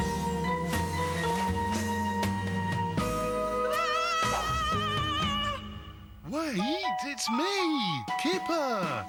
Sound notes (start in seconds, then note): 3.2 screech